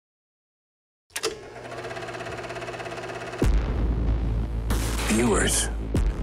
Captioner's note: whirring